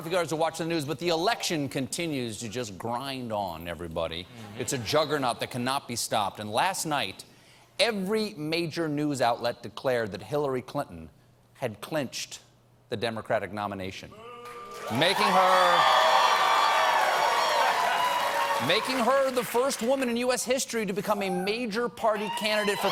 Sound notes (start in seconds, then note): 17.2 cheers; 22.1 cheers and applause